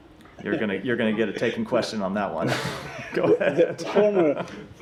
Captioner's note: laughter